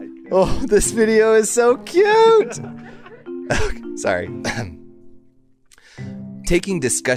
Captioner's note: short Pause, Cough